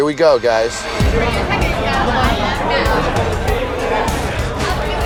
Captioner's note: indistinct chatter